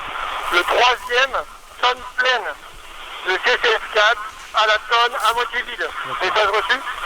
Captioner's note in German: Funkspruch